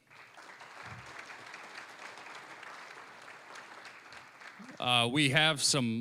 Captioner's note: applause